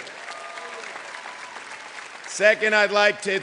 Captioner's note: clapping